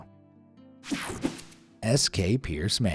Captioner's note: cartoon swoosh